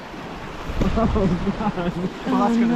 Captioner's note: laughing